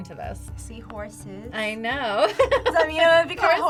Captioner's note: laughs